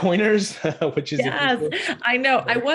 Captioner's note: chattering faintly